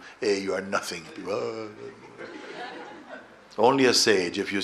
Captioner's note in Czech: smích